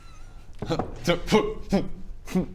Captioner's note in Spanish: risitas